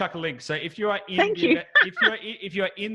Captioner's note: laughing